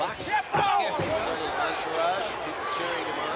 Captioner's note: blows thudding